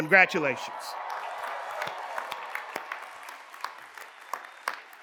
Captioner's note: cheers and applause